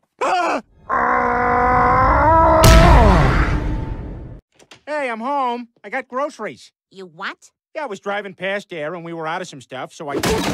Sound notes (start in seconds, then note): 0.1 gasping; 0.8 grunting